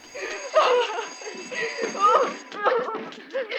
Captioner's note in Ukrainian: плачуть